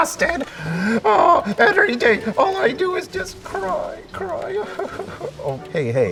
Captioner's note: sobbing